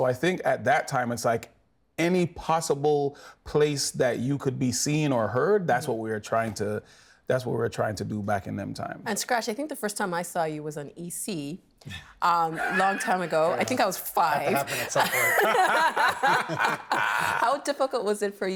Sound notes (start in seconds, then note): 15.5 laughing